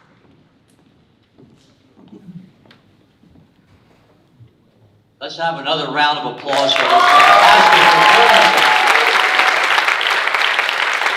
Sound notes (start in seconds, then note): 6.4 audience applauding drowns out speaker